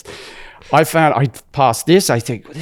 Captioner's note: laughs